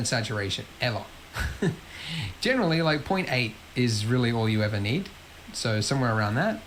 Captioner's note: laughs